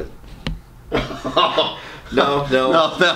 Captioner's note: laughs loudly